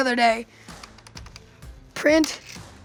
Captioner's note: keys clacking